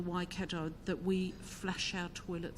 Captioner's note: speaks in foreign language